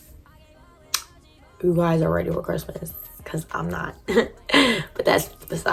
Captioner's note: chuckles